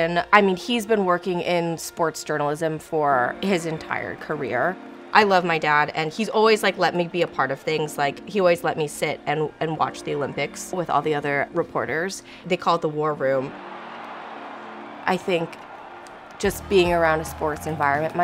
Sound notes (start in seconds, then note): 13.3 crowd cheering